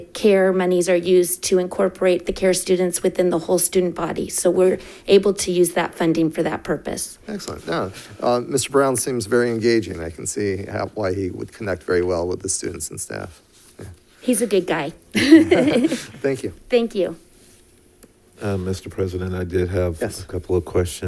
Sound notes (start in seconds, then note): 15.1 laughs